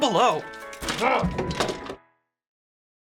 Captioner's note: chair clatters; grunts angrily